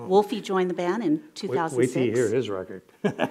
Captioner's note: laughs